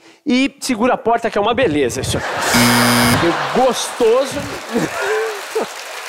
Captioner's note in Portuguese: campainha